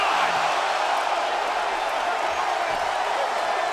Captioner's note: crowd cheers